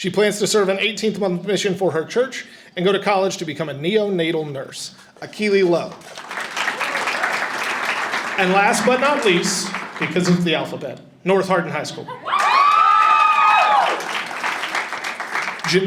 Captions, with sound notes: She plans to serve an 18th month mission for her church and go to college to become a neonatal nurse. Akili Lowe. (audience applauding) And last but not least, because of the alphabet, North Hardin High School. (audience applauding and cheering)